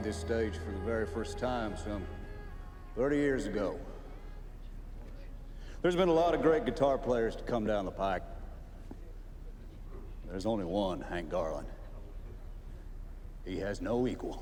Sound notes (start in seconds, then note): none